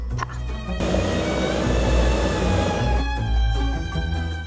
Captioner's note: blender whirring